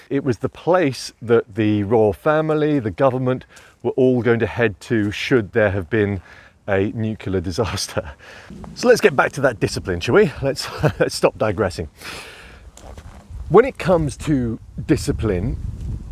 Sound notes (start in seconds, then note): 8.0 chuckling